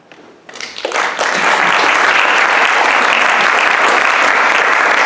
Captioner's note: audience applauds